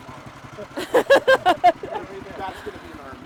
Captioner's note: laughing